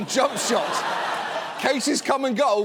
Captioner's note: audience laughs